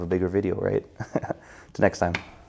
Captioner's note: laughs